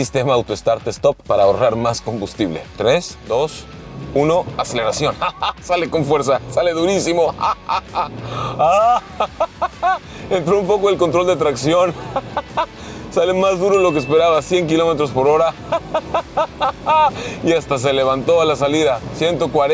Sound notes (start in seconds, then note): 7.2 laughs